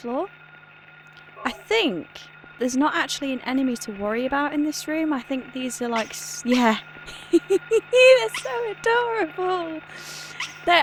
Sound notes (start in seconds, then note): 7.7 laughing